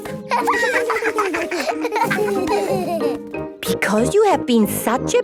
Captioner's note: laughter